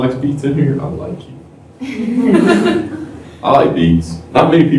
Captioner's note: laughter